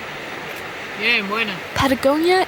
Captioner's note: speaking in foreign language